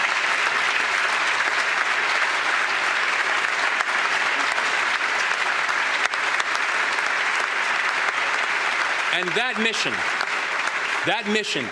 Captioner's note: applause